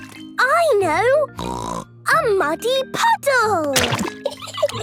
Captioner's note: laughing